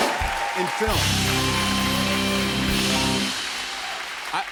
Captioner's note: cheers and applause